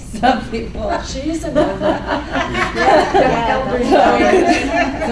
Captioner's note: laughing